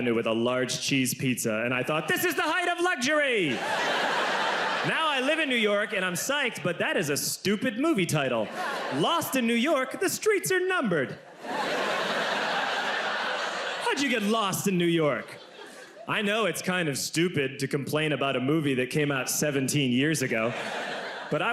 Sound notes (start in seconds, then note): 3.4 audience laughs; 11.2 audience laughs